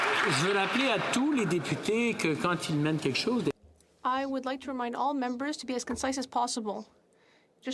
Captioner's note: applause